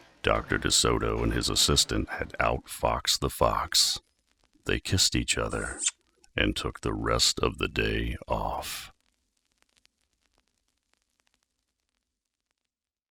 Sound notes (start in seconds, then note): 6.4 kiss